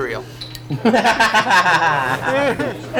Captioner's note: everyone laughs